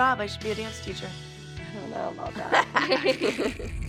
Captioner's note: laughs